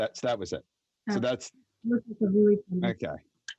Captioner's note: applauds